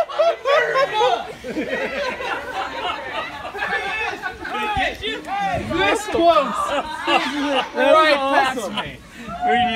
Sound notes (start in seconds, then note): 1.6 laughing continues